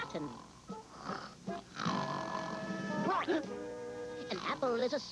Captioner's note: boing; snore